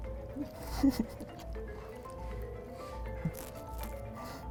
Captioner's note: laughing